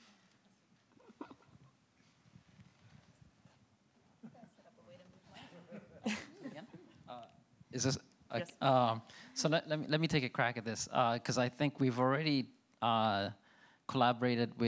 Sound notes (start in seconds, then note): 4.9 speaks faintly; 5.8 panelists chuckling